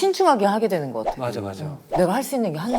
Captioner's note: whoosh